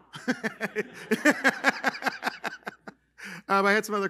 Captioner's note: laughter